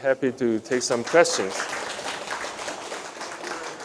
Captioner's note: applause